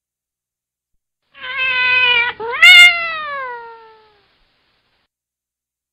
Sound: Cat Screech www.sounddogs.com

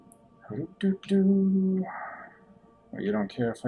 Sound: humming

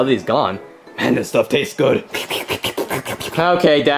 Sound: slurping

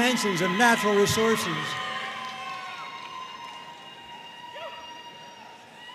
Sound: audience cheering and applauding

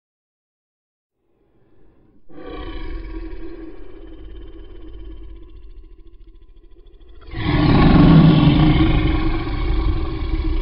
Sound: beast roar

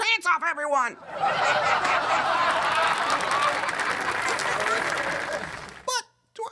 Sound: laughter/applause

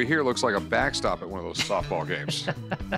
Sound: laughing

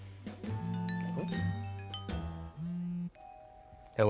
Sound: phone vibrates and rings

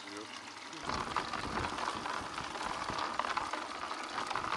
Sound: water splashes

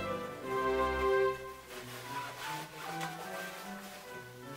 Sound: fabric rustling

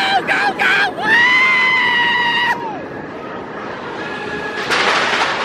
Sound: screaming

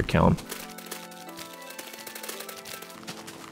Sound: furious digging

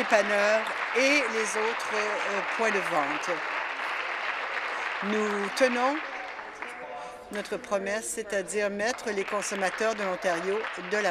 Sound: applause

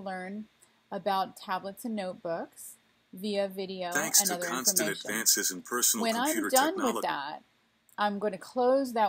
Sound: video playing in the background

